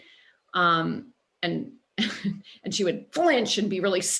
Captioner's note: laughter